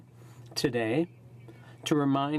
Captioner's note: speaking in french